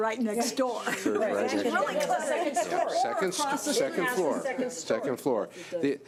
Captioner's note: laughing and mumbling